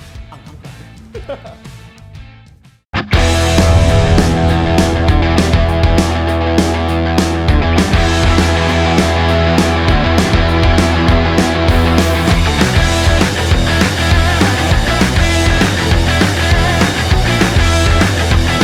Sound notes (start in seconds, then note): 0.4 laughs; 3.2 outro music